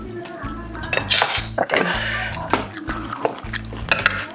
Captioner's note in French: Tousse